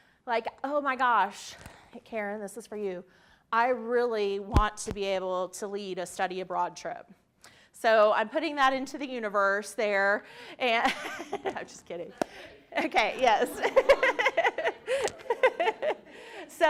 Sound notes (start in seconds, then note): 11.2 laughs; 13.0 laughs